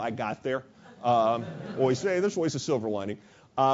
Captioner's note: laugh